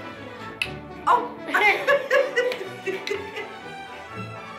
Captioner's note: laughs